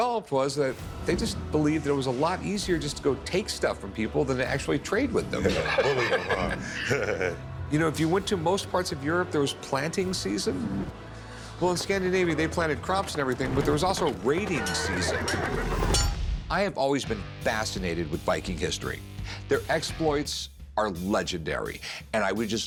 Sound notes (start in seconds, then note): 5.4 laughter; 15.5 battle sounds